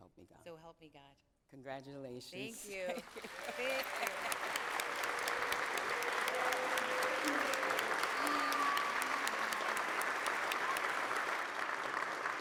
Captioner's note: applause